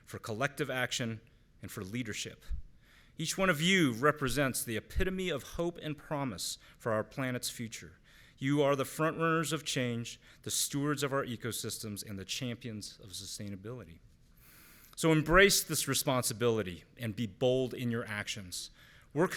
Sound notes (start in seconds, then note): none